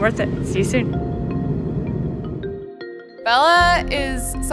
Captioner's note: plane engine roaring; lighthearted music